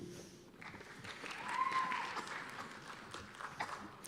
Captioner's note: cheers and applause